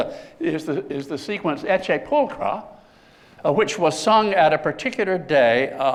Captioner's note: non-english